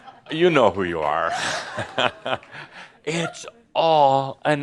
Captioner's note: Adamus chuckles